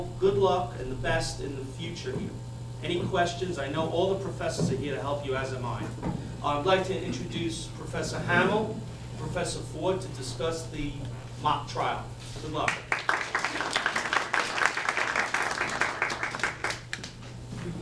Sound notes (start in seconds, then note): 12.6 audience applauds